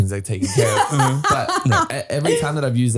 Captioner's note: laughing